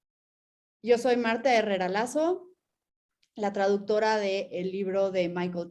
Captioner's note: speaking in Spanish